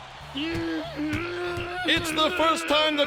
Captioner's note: stomping and crying